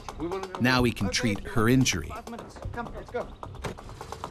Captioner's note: voiceover